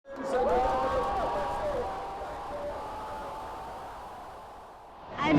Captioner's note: crowd cheering loudly